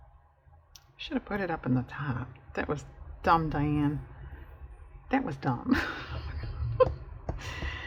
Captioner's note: laughs